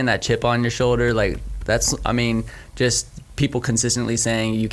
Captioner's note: stammering